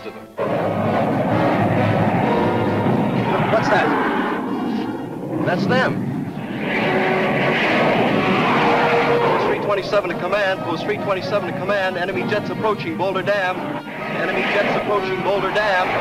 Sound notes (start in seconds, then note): 0.2 plane engines roaring; 6.4 plane engines roaring